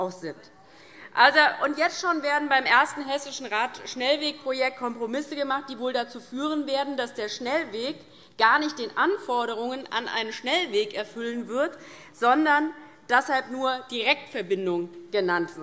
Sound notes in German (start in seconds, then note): none